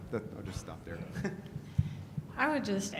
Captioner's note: laughs